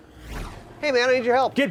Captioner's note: whooshing